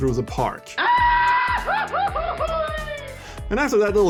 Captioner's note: goofy scream